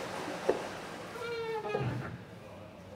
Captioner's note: squeaking